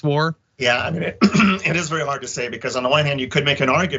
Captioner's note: cough